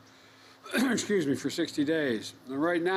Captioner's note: coughs